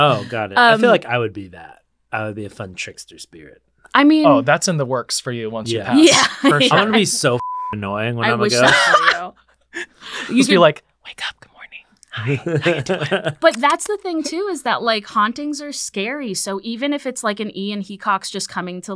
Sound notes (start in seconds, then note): 7.4 beep